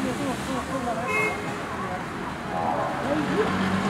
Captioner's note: distant crowd chattering; horn blaring; vehicles revving